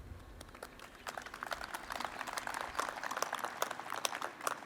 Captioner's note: audience applauds